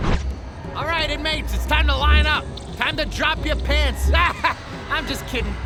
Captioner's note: laughs